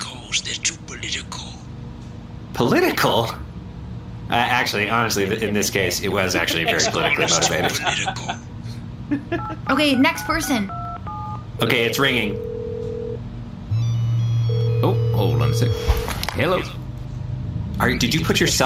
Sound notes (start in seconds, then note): 12.3 dialing; 13.7 Derf’s phone rings